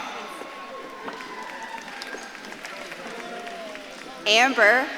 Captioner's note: audience claps and cheers